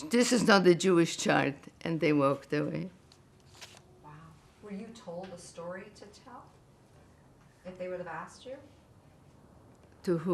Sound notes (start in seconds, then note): none